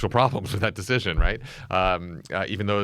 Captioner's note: laughs